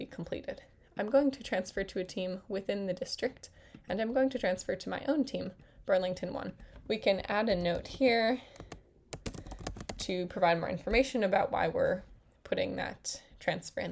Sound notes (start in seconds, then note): 9.1 typing sounds